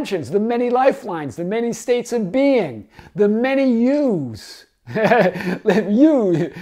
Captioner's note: laughs